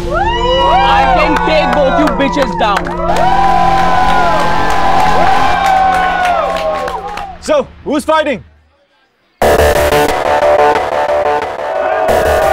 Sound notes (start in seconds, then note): 0.0 All hooting; 3.0 All hooting, clapping